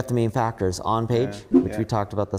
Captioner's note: graphics whooshing